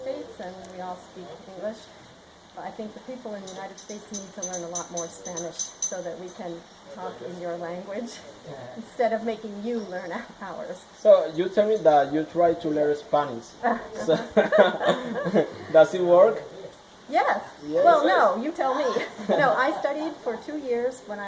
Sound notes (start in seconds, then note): 13.6 laughing; 13.6 risas; 16.2 laughing; 18.7 risas